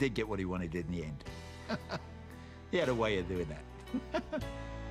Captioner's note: laughs